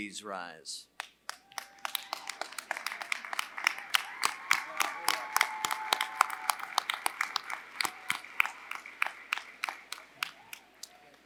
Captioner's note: applause